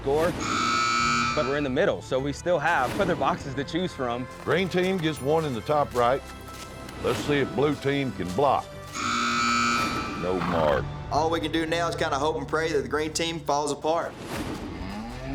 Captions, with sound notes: [BUZZER SOUNDS] BUT WE'RE IN THE MIDDLE, SO WE STILL HAVE OTHER BOXES TO CHOOSE FROM. GREEN TEAM GETS ONE IN THE TOP RIGHT. LET'S SEE IF BLUE TEAM CAN BLOCK. [BUZZER SOUNDS] NO MARK. ALL WE CAN DO NOW IS KIND OF HOPE AND PRAY THAT THE GREEN TEAM FALLS APART.